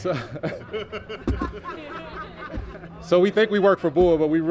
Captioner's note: laughter